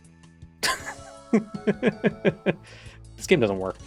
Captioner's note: laughing